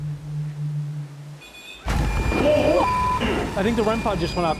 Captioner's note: beeping